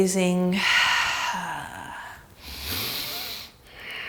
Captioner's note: exhales